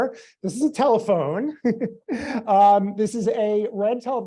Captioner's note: laughs